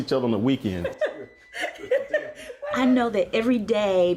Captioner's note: laughs